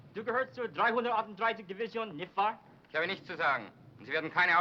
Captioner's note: speaking foreign language